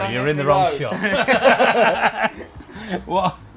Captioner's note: laugh